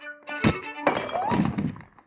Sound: glass thuds; woman screams

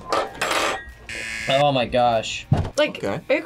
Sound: buzzer rings

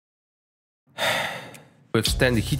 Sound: sigh

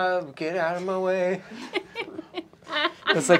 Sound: laughter

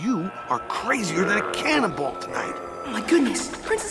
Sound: zombies groaning

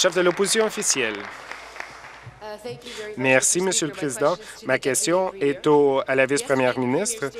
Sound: applause

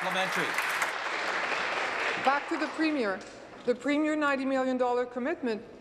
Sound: applause

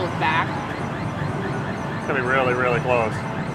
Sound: game being played

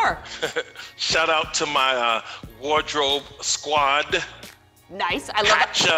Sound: laughs

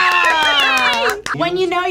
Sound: claps

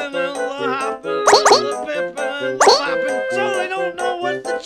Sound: Goombario language

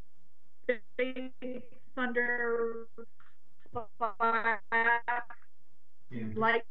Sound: voice distorted

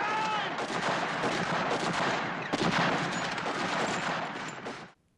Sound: gunshots and screaming

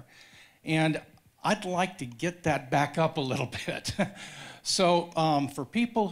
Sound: laughs

